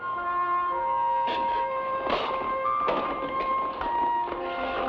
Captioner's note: man spits; somber music